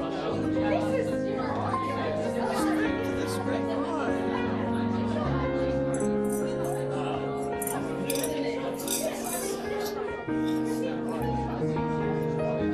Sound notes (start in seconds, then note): 4.2 lively chatter continues